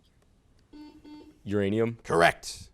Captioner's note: buzzer sounds